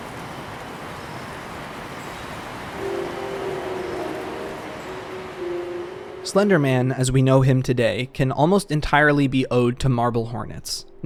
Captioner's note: white noise